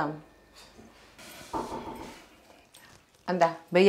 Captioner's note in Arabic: يطرقون باب المنزل